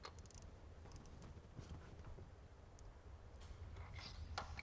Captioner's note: plug ratcheting